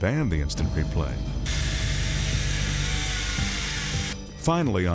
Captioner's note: chainsaw buzzing